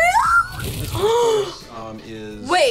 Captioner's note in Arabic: شهقة